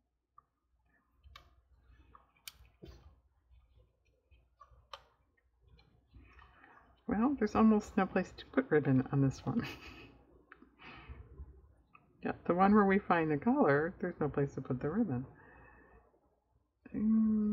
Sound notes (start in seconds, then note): 9.6 laughs